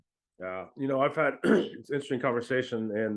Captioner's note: clears throat